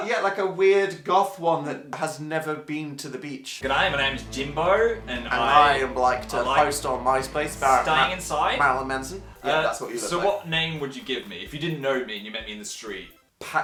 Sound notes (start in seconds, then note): 3.9 in an Australian accent